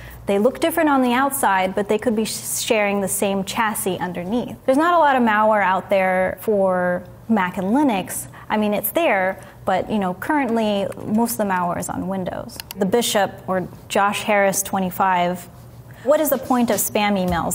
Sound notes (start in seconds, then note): 12.8 mouse clicking